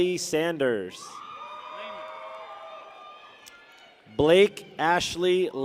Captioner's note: people cheer